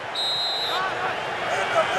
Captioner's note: whistle